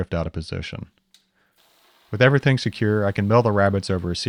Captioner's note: mill whirring